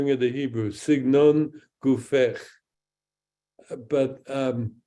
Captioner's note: speaks in Hebrew